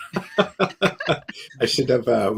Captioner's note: laughs